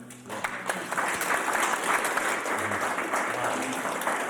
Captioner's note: audience applauds